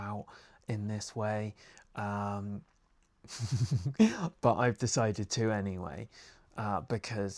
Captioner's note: laughs at self because it's happening!